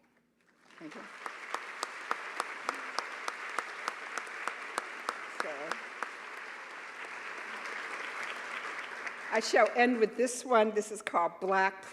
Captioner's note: applause